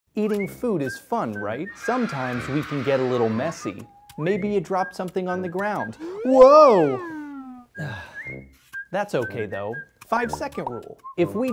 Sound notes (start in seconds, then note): 0.2 bright whistling music; 5.8 slide whistle